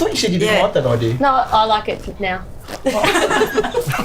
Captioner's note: all laugh